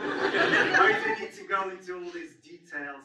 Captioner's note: audience laughs